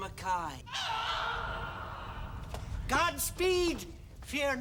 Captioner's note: man screaming